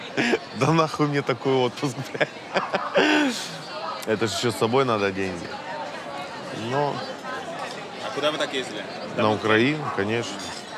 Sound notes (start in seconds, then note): 1.9 laughs